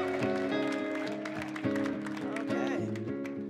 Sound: people cheering

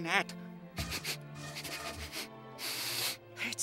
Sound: sniffing

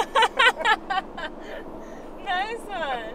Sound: به زبان خارجی صحبت می کند; می خندد

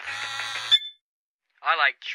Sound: phone sounds ringtone, vibrates; phone beeps

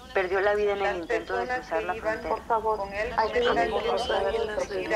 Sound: group mutters in Spanish

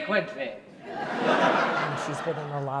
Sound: laughter

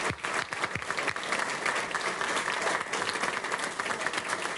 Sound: applause

